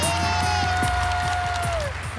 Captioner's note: applause